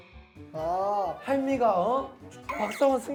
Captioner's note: haha